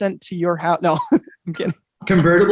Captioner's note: chuckles